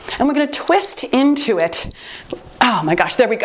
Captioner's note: timer beeps